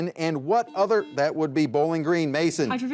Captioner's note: buzzer buzzes